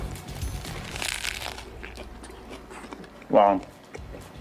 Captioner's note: bread crunching